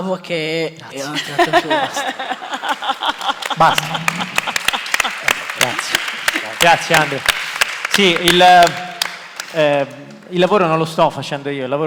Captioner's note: Risate